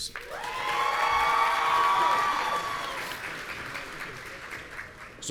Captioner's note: audience cheering